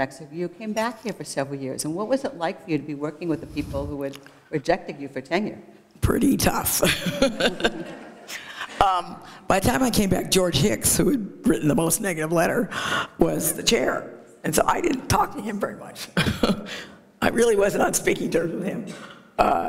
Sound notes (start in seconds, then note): 6.8 laughter